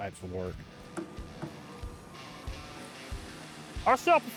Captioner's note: upbeat rock music; wood thudding